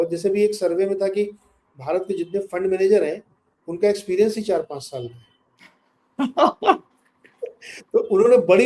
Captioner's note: laughs